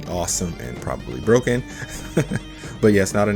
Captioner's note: chuckles